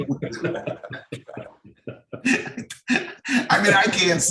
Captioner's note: all laughing